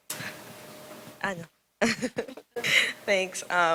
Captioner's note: laughs